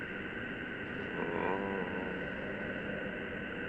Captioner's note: faint moan